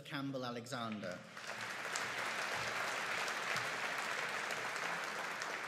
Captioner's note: audience applauding